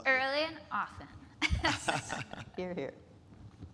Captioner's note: speakers laughing